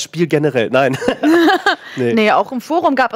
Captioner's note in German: lacht